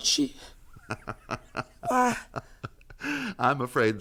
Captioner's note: laughs sinisterly